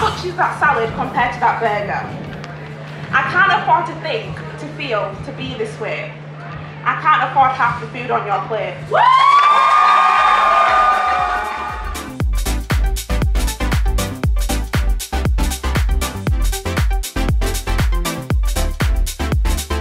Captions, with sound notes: How much is that salad compared to that burger? I can't afford to think, to feel, to be this way. I can't afford half the food on your plate. *Cheering*